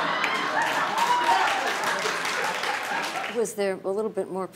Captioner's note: laughter